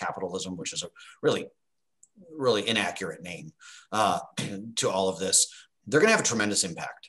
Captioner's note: cough